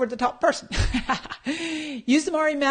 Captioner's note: laughs